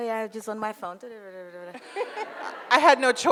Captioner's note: audience laughs